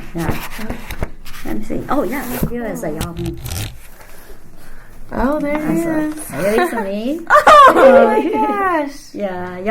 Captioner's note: laughs